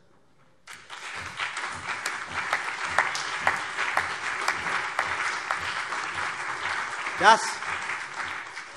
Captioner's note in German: Beifall CDU und BÜNDNIS 90/DIE GRÜNEN